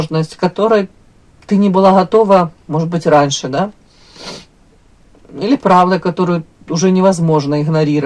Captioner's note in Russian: фыркает